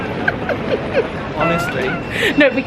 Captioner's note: laughing